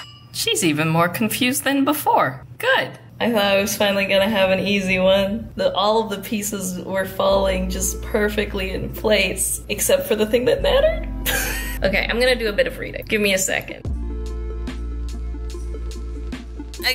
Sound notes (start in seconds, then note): 11.3 laughs; 13.8 calm electronic music